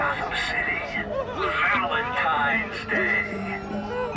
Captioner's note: people sobbing